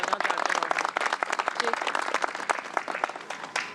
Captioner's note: applause